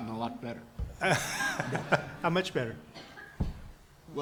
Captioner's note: laughs